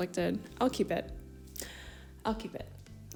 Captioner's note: big breath